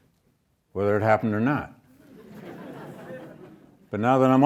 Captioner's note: audience laughs